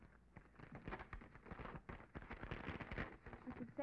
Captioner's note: paper rustling